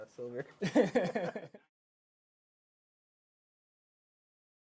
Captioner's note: both laughing